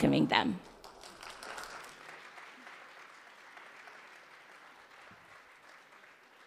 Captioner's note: audience applause